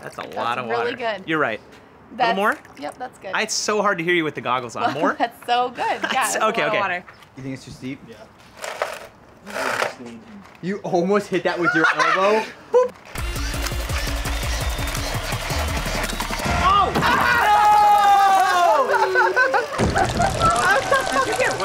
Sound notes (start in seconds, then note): 0.0 water trickling; 5.5 laughs; 11.6 laughs; 13.1 electronic music; 16.4 yelling and laughing; 20.0 slowed yelling and laughing